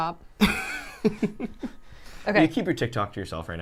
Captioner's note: laughing